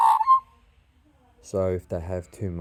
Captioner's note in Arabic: طائر العقعق يغرد